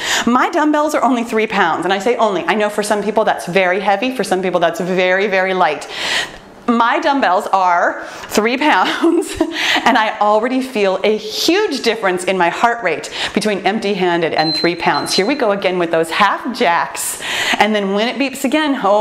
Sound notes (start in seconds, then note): 14.4 timer beeps